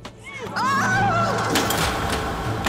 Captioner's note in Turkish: Marya çığlık sesi